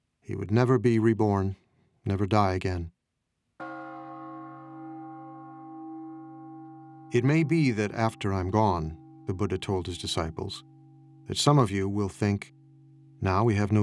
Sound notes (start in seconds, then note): 3.5 bell gongs